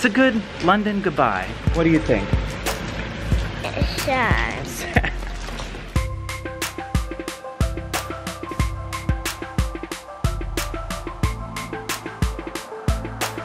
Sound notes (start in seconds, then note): 4.7 chuckles; 5.7 adventurous tune